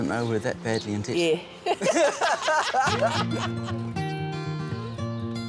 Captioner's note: both laughing